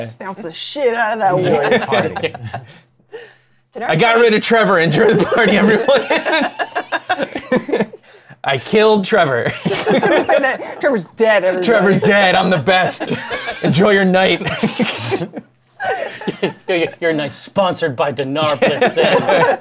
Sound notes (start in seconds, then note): 4.9 laughter; 14.2 laughter